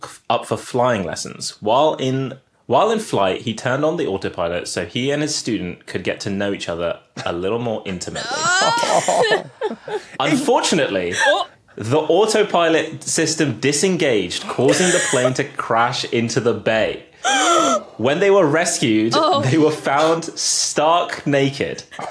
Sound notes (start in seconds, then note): 8.1 guessers cringe-laugh; 17.2 gasp